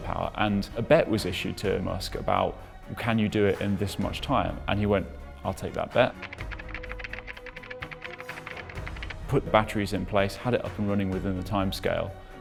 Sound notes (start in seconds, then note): 6.1 keyboard keys chattering